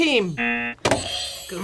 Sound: buzzer rings

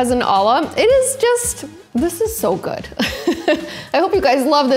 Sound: laughing

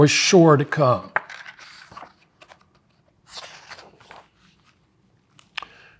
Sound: pages rustling

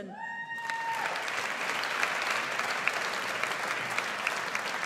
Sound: audience applauds

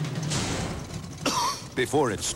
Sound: engine sounds continue; coughs

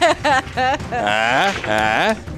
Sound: laughs

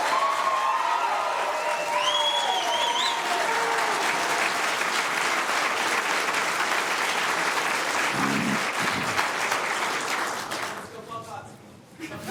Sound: applause

